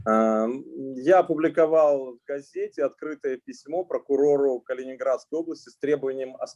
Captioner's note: speaking Russian language